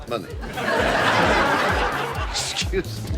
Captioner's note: audience laughs